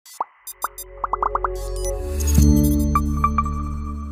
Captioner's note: graphics popping; logo chiming